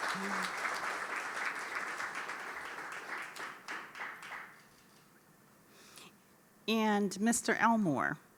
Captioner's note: applause